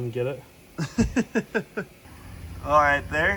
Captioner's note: laughs